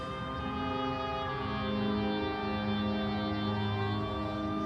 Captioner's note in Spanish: sirenas de la policía